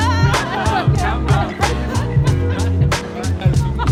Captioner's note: laughter; laughter continues amongst chatter